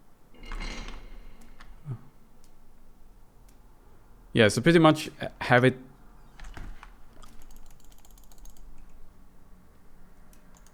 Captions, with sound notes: Yeah so pretty much have it- *gate clicks*